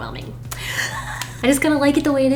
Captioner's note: nervous breath